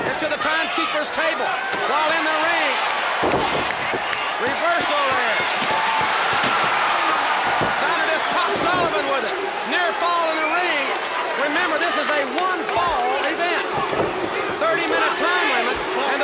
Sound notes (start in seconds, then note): 5.9 audience cheers